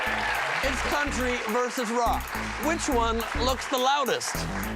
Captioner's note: cheers and applause